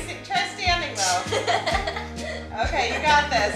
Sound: laughing

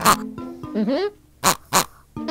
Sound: pig oinks three times; pig oinks three times; pig oinks twice

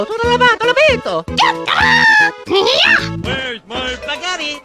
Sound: Toad's Wierd Voice

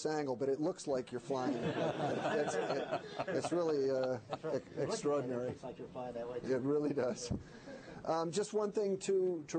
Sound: laughter

